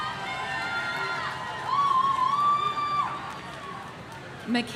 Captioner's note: audience cheering